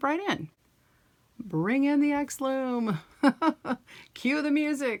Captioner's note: laughs